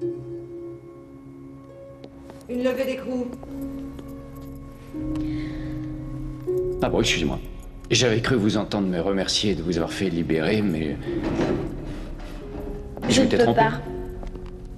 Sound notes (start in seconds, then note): 5.1 sighs